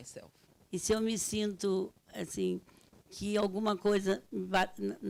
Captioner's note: speaking Portuguese